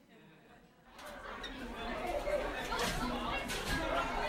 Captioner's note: people chattering